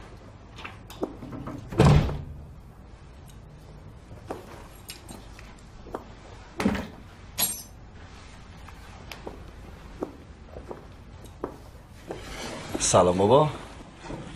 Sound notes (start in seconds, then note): 1.0 door closing; 6.6 thud